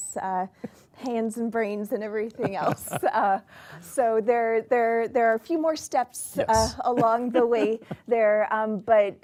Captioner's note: laughter; laughter